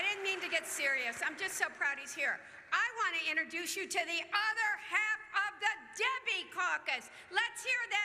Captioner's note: cheers